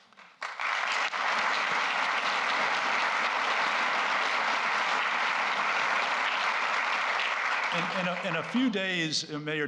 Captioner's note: applause